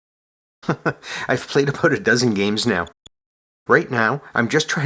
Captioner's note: chuckles